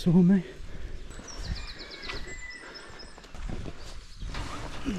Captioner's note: birds chirping